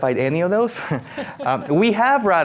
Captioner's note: laughing